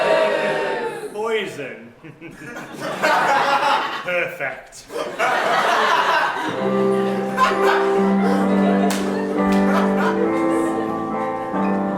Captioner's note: audience laughter